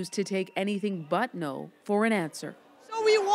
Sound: speaking foreign language

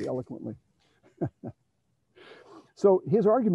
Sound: chuckles

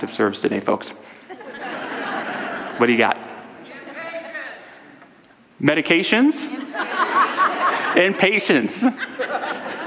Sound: audience laughter

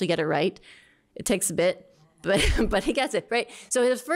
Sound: laughter

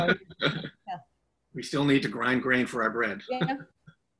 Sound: laughs

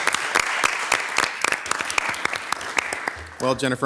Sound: everyone clapping

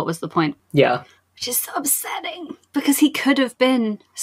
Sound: strained

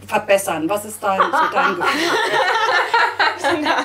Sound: laugh

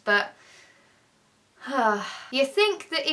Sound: sighs

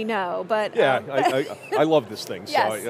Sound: chuckling

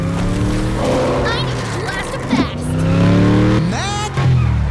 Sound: roaring

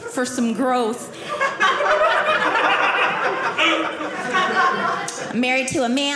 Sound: audience laughing

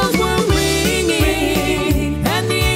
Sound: ringing

